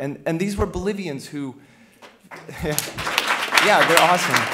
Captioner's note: applause